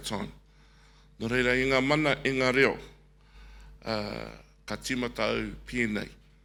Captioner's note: speaking in foreign language